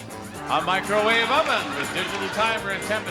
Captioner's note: audience laughing